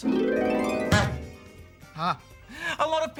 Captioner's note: harp plays; bonk!